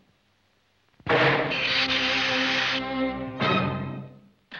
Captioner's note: shot sizzles; dramatic music